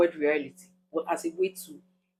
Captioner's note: paause